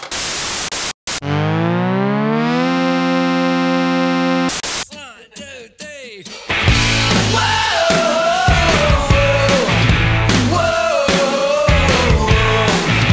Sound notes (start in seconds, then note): 0.0 Static; 4.5 Static